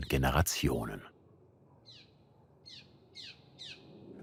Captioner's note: bird calls